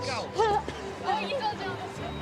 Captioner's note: laughs